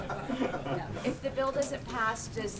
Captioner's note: laughter